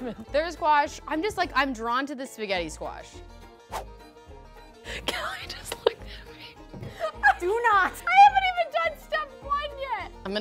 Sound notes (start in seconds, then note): 6.9 laughs